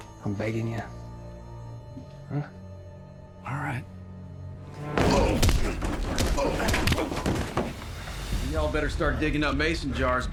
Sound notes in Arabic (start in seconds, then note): 4.9 ستومب; 5.0 لكمة